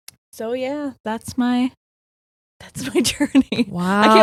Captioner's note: laughing